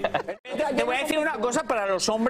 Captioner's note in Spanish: risas